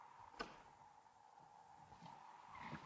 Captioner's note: door opens; wind blows